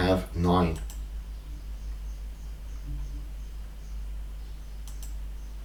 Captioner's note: clicking on screen